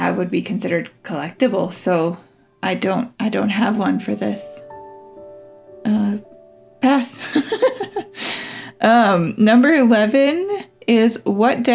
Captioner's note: laugh